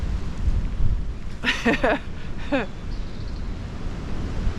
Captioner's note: chuckles